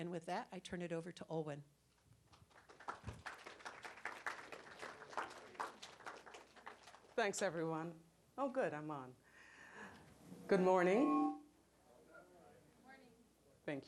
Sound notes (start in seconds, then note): 2.3 applause